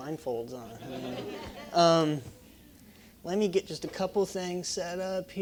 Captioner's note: laugh